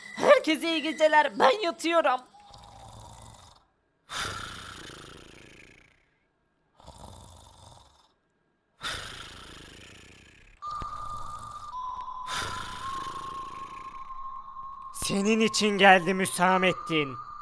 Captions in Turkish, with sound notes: Herkese iyi geceler! Ben yatıyorum! (Horlama sesi) Hüsamettin senin için geldim!